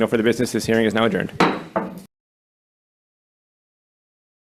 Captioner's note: gavel bangs